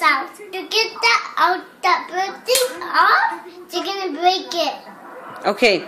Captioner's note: slap hands